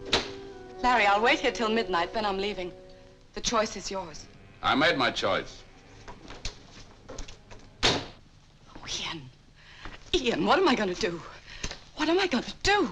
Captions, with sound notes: - Larry, I'll wait here 'til midnight, then I'm leaving. The choice is yours. - I made my choice. (door bangs shut) - Oh Ian, Ian, what am I going to do? What am I going to do?